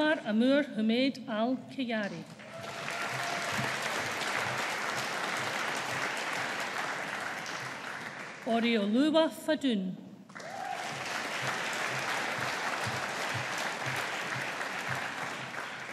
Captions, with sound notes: Anwaar Amur Humaid Al Khayari. (AUDIENCE APPLAUDING) Oreoluwa Fadun. (AUDIENCE APPLAUDING)